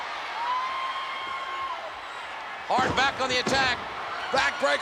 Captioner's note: spectators cheering